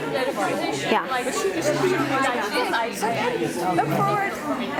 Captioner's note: people chattering